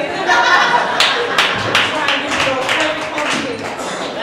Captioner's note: audience laughter